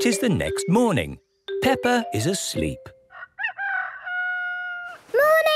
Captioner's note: cock-a-doodle-doo